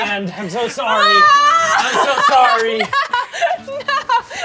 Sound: screaming and laughing

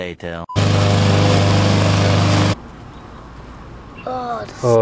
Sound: lawn mower running

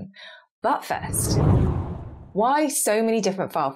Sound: screen whooshes

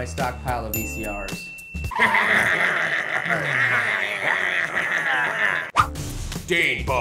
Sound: monsters laughing

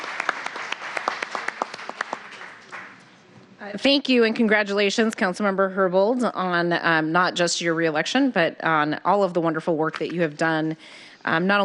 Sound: applause

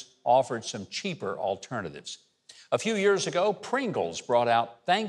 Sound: none

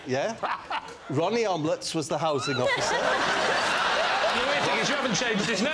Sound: laughter

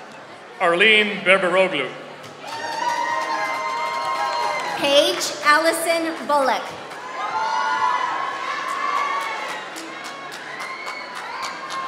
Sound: applause

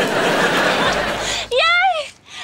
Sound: giggling

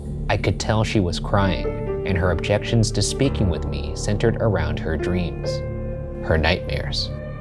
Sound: none

